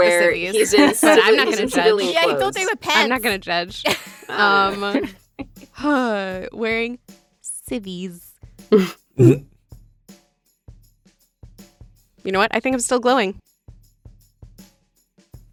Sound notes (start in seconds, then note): 5.7 sighs; 8.3 chuckle